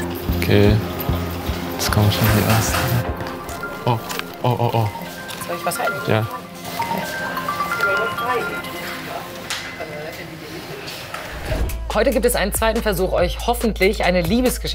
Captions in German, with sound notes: (Unruhige Musik) Okay ... Jetzt kommen die Ersten ... (Handy klingelt.) Oh ... Soll ich was halten? - Ja. Heute gibt es einen zweiten Versuch, euch hoffentlich